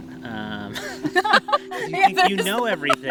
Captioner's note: both laughing